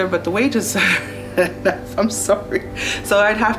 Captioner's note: laughs